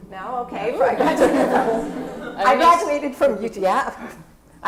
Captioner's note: laugh